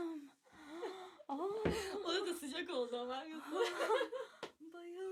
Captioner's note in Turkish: kahkaha; kahkaha